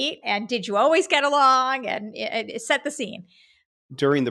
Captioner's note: laughing